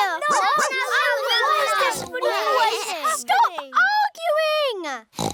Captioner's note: barks; oinks; oinks